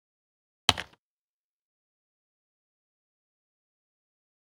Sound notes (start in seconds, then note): 0.5 click